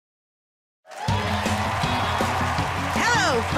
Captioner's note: cheers and applause